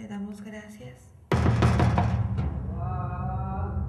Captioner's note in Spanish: tocar puerta